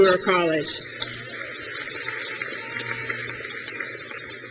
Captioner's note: crowd claps